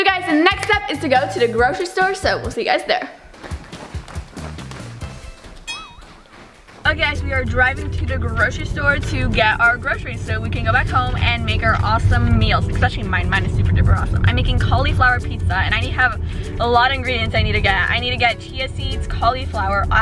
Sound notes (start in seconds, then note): 3.2 footsteps echoing